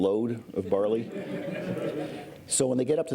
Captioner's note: laughter